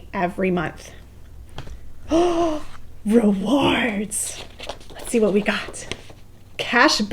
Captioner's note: gasps